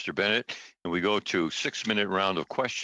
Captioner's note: speaking French